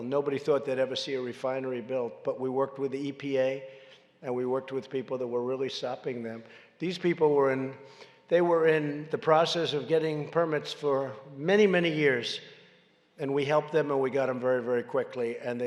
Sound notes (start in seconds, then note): none